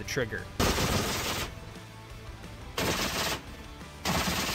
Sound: gunshot cracking

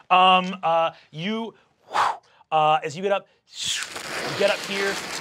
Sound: whooshes

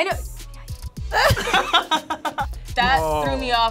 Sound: both laughing

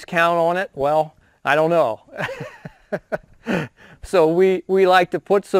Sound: laughs

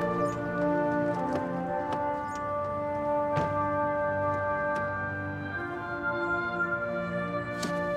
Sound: car doors shut

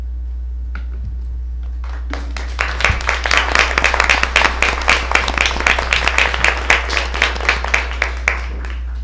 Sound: applause

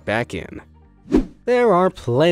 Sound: transitional wipe-screen rushing sound

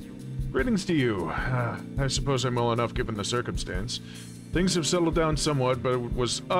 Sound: sigh

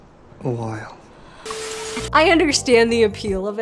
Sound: static crackling

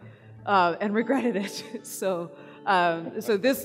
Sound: laughs

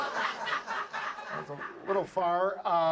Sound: audience laughs

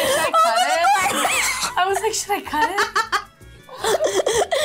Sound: laughs

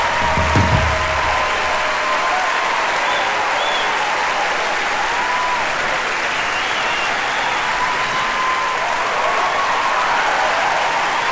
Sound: applause

